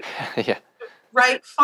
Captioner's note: laughs